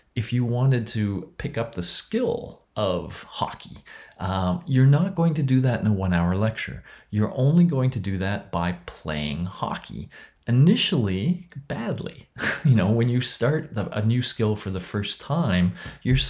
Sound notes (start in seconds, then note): 12.4 laughs